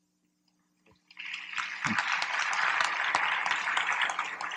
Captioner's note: applause